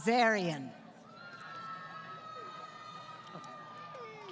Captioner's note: crowd Cheering